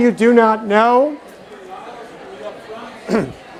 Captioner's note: chatter